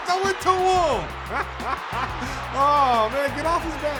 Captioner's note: laughing